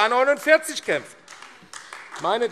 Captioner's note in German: Beifall AfD